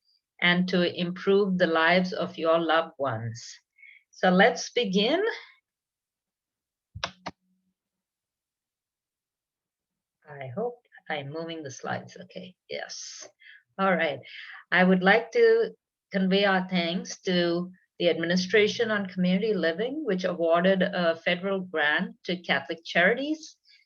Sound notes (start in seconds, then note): 7.0 keyboard sound